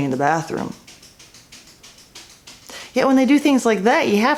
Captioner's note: pawing noises continue